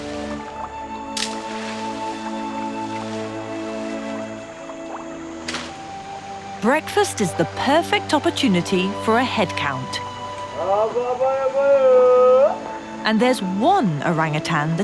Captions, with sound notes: (light uplifting music) Breakfast is the perfect opportunity for a head count. (yelling) And there's one orangutan